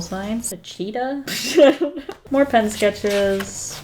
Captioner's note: laughs